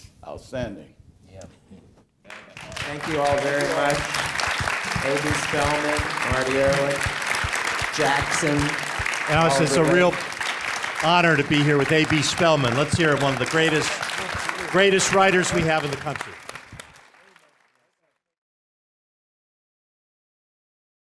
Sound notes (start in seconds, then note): 3.9 applause